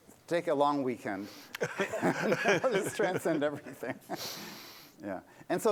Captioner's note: laughter